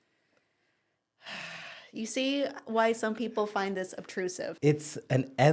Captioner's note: sighs